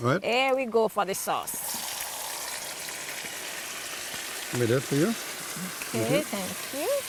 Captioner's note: sizzling